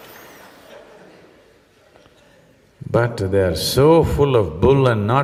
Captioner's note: laughter